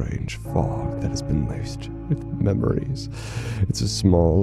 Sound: tolling bell

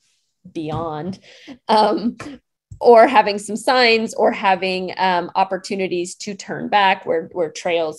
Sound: chuckling

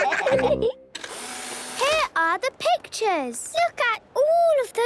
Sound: whirring

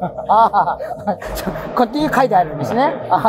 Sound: laughing

